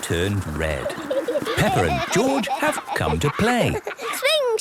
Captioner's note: laughter